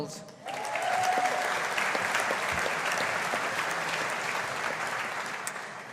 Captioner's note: audience applauding